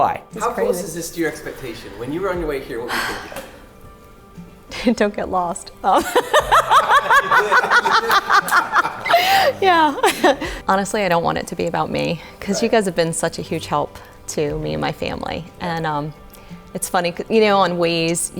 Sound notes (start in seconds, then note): 5.9 laughs